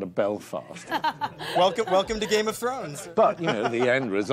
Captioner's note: laughing